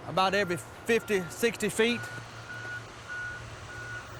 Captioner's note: backhoe beeping